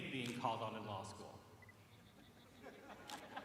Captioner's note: laughter